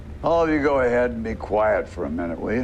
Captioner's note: none